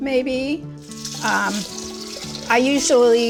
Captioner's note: water splashing